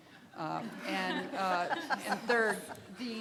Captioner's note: all laughing